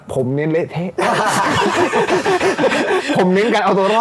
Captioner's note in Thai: หัวเราะ